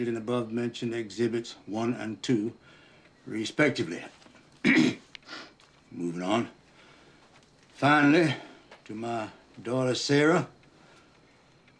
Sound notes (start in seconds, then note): 4.6 attorney coughs